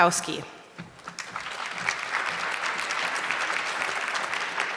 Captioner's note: audience clapping